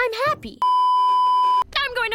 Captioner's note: beeeeeeeeeeeep